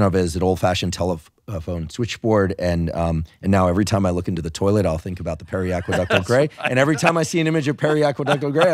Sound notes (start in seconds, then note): 5.8 laughing